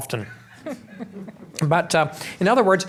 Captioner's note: laughing